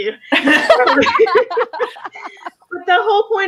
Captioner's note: both laughs